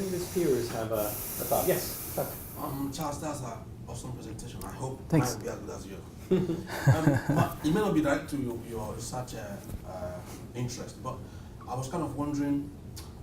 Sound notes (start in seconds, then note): 6.3 laugh